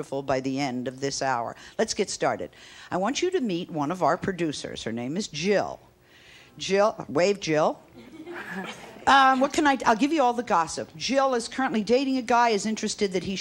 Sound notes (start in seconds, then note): 8.0 audience laughs